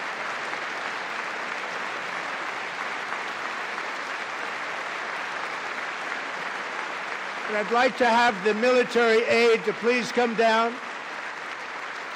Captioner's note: applause